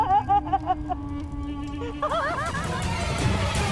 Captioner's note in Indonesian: tertawa